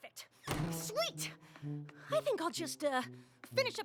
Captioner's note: door slams